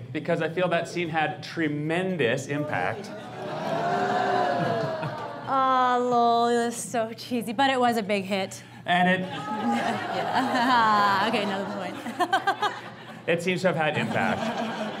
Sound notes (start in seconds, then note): 2.6 audience booing; 9.2 audience laughs